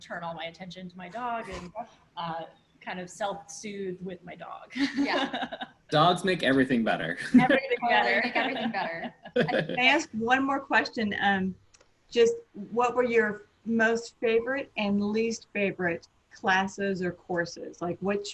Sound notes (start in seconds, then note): 4.8 laughs; 8.2 laughs